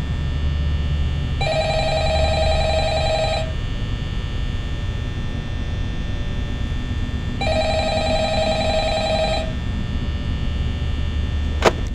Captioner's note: phone Rings